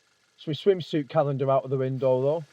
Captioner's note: none